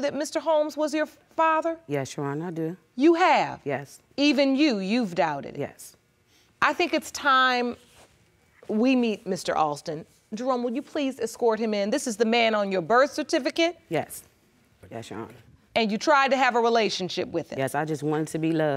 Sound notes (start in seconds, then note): none